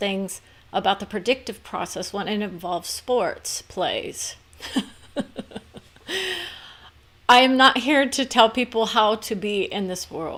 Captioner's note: laughs